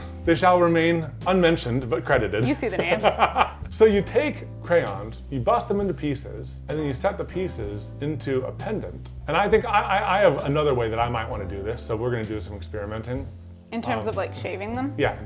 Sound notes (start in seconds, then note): 2.7 laughing